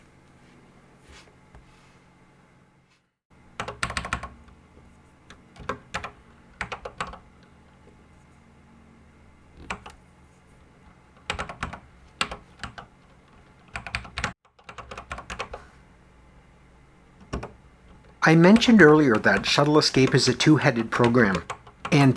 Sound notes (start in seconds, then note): 3.9 typing on a Commodore 64 keyboard